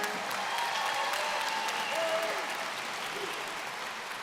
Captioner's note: applause